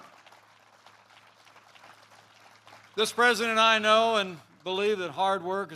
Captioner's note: applause